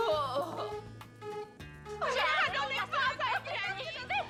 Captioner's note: sigh